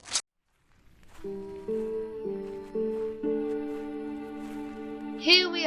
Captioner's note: footsteps